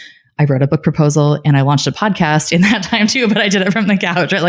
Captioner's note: laughing